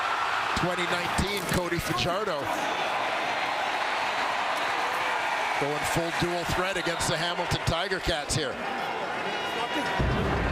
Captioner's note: crowd Noise